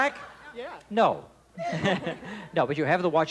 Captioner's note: laughing